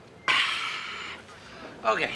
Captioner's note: sighs